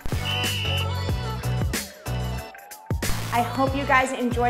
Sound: whistle blows

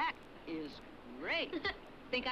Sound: Jens laughs

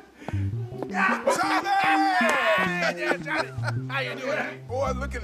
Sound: laughing

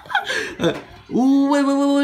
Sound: laugh

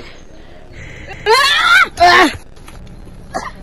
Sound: Amon screams out, Leon screams after being hit; sounds of struggle

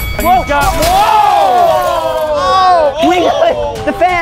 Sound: screaming

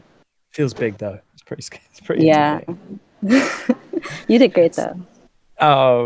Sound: laughs

